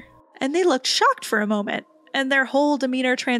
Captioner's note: none